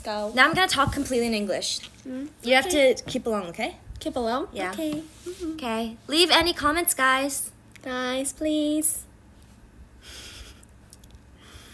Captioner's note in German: auf Englisch